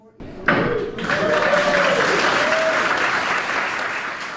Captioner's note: applause